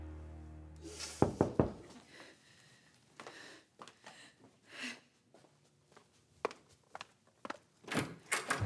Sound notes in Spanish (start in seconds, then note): 1.1 sollozos; 1.2 toques en la puerta